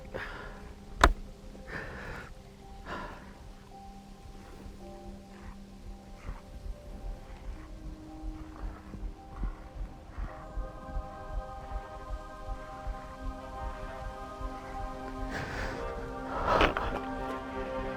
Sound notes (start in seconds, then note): 0.0 rifle clacking; 0.3 Arawn breathing heavily; 4.2 wolf growling; 15.3 Arawn breathing uneasily